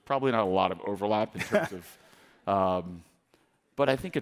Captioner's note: chuckles